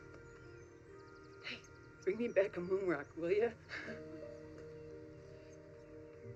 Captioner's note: laughs